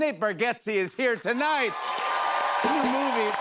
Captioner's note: cheers and applause